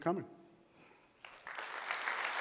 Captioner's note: applause